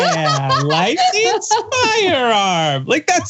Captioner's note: laugh